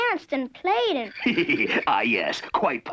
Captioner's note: laughing